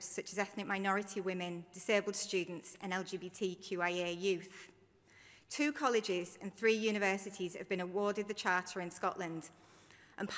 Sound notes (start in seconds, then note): none